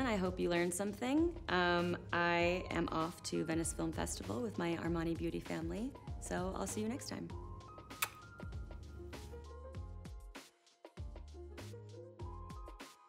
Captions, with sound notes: I hope you learned something. I am off to Venice Film Festival with my Armani beauty family. So I'll see you next time. (blowing kiss) (gentle music)